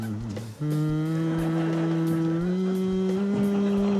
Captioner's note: continues humming